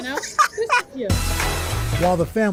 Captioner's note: laughter